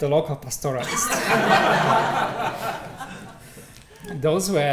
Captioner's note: laughter